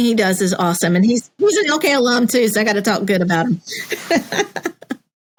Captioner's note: laugh